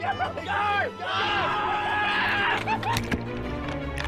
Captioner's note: laughing; yelling